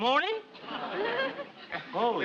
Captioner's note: audience laughs